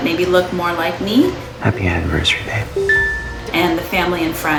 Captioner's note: phone chimes